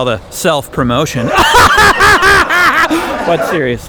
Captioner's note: laughs